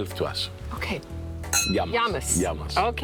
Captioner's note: glasses clinking